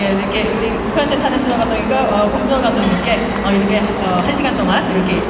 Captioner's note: speaking Korean